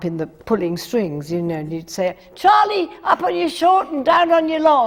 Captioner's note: yells